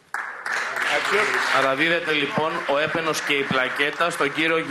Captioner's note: applause